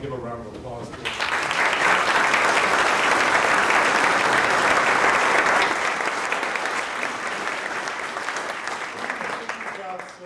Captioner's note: audience claps